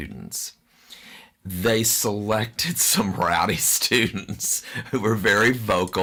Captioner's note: laughs